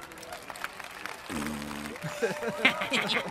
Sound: blows raspberry; all snickering

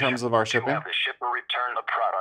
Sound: computerized Voice

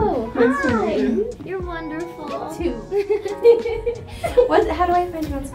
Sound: giggles

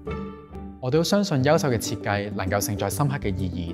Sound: Cantonese

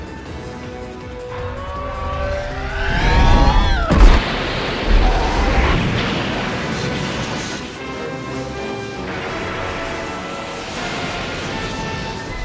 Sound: Rodan 2019 roars

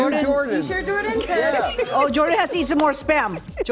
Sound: laughter

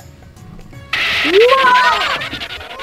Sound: bus skids

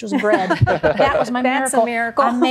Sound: laughter

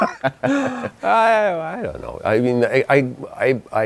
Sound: laughs

